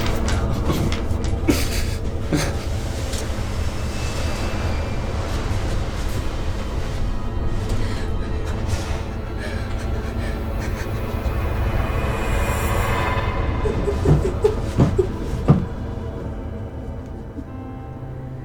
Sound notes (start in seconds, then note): 1.8 crying; 1.8 dramatic music